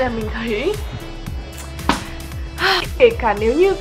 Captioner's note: sigh